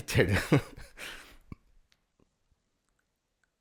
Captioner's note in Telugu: నవ్వు